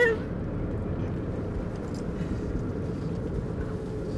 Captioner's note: engine rumbling